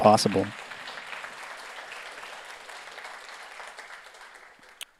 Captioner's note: audience applauds